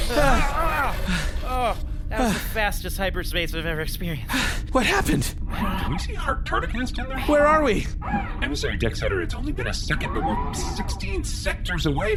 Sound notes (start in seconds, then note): 2.0 the crew breathe heavily; 4.3 out of breath